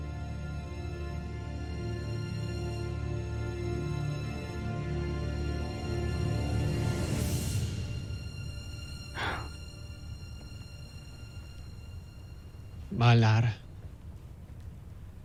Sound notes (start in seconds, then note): 0.0 music swells; 9.1 sighs; 10.1 music fades